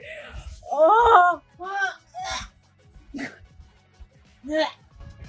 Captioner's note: wretch; gag